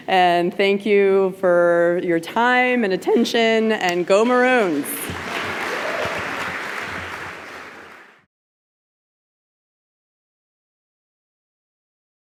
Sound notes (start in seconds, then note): 4.2 applause